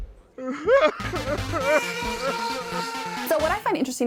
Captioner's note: crying